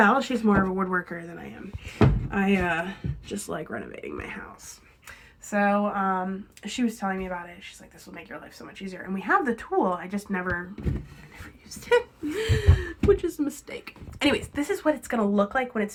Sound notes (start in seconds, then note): 11.2 whispering; 12.6 chuckles